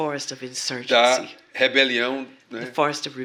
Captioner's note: speaking portuguese